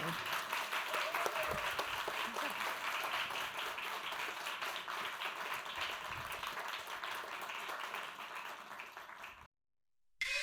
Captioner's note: applause